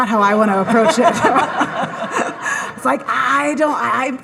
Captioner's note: all laughing